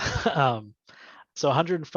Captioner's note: giggles